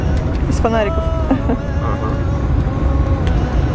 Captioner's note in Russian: смеётся